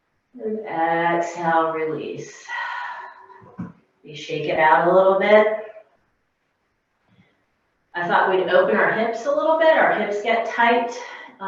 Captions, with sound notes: exhale, release. (deep exhale) We shake it out a little bit. I thought we'd open our hips up a little bit. Our hips get tight,